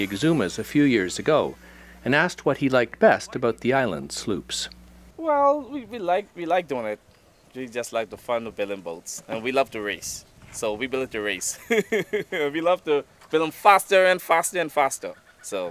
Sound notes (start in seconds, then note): 11.6 laughs